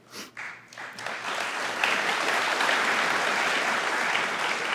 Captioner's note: audience applauding